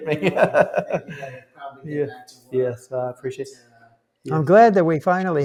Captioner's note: laughter